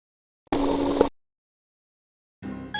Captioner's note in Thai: เสียงเอฟเฟกต์